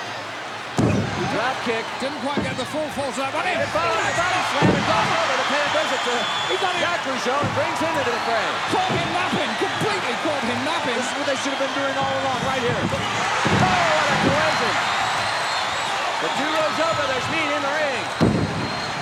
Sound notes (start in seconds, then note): 13.9 crowd cheers; 16.1 commentators exclaim